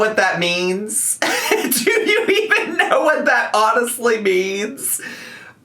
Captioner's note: laughs